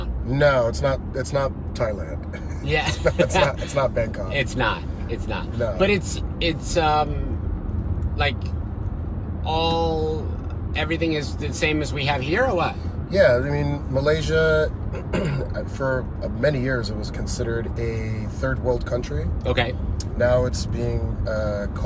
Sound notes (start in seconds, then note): 2.8 laughs; 14.9 coughs